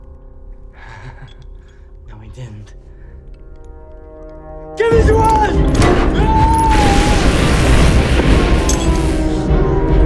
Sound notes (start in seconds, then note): 0.8 Tippet laughs; 5.5 wrench clangs; 6.0 Tippet yells; 6.6 electricity crackles; 8.6 wrench clanks